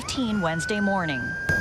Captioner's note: nats of sirens